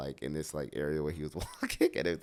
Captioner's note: laughs